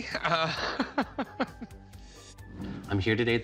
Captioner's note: laughs